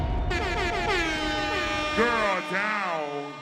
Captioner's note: party horn